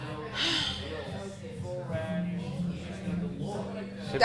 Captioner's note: sighs